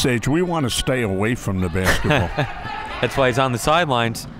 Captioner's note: laughs